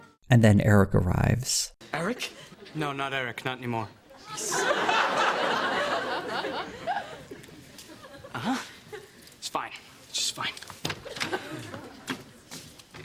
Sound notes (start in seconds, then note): 4.2 audience laughter